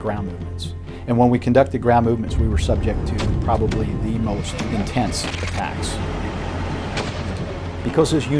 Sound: explosions

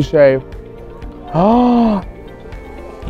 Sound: gasps

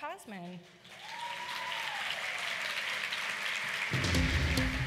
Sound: applause

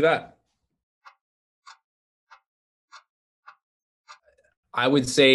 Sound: clock ticking

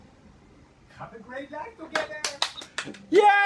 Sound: game voice; assistant clapping

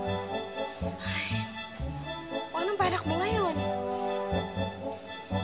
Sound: sighs

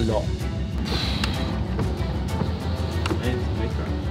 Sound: sighs

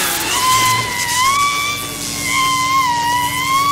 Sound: screams

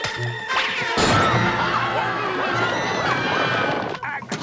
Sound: screaming

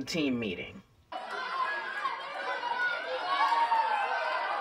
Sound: laughing and cheering in the background

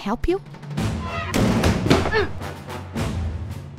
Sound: door creaks

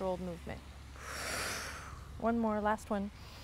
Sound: exhales

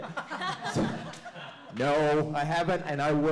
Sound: laughs

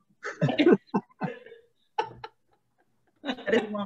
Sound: laughing

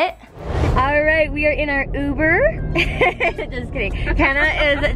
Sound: laughs

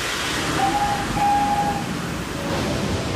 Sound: guard's whistle blows; whistles

